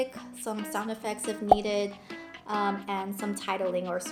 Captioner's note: guitar music; popping